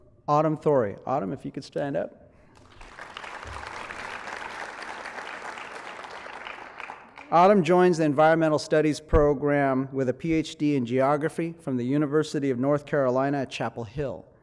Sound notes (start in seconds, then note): 2.5 applause